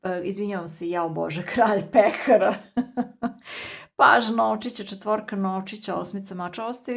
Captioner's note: laughter